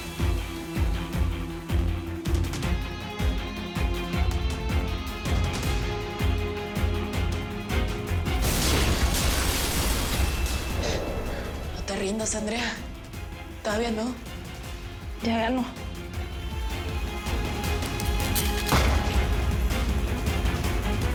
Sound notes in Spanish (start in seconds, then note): 8.4 Explosión; 18.6 Disparo